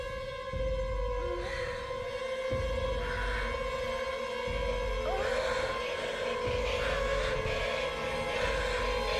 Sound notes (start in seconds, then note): 3.1 heavy breathing; 3.1 moaning